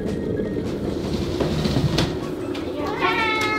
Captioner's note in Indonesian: menutup laci